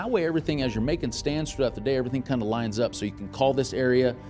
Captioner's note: none